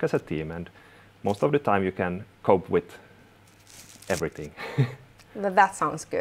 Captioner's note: chuckles